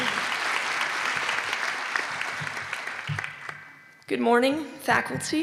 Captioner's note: applause